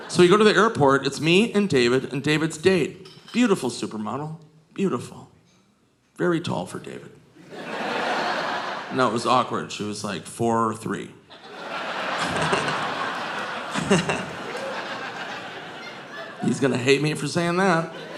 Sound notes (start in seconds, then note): 7.4 audience laughing; 11.3 audience laughing; 12.1 Nick chuckles